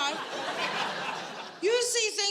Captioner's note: audience laughing